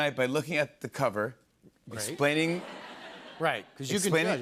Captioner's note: laughter